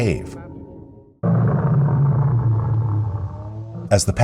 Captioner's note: creature growls